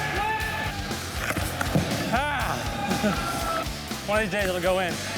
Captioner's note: exclamation